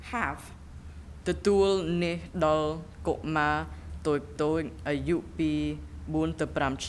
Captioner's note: speaking in a foreign language